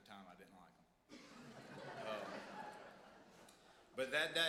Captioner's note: audience laughs